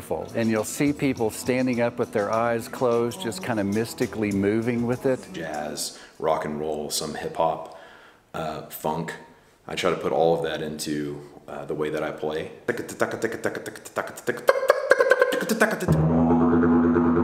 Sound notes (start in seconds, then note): 12.7 vocalizations; 15.8 didgeridoo playing